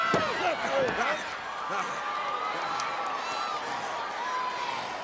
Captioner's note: wrestlers grunting